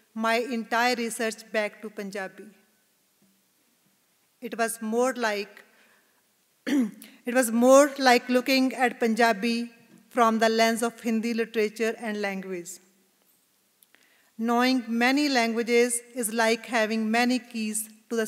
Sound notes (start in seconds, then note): 6.6 clears throat